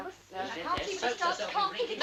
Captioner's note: indistinct chattering